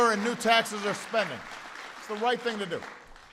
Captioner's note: applause